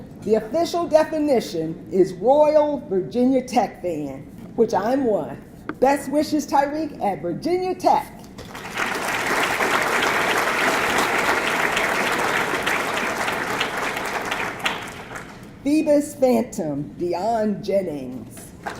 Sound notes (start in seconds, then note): 8.4 audience clapping; 18.6 audience clapping